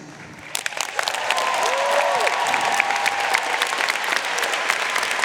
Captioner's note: audience cheering and applauding